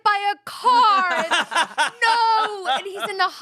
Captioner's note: everyone laughs